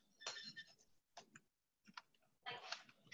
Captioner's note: chirp rings